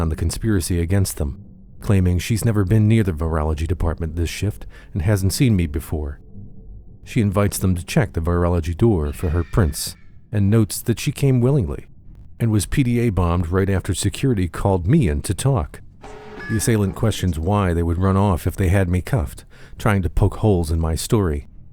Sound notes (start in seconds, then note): 16.0 klaxon alarm